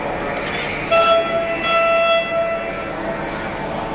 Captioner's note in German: Huppen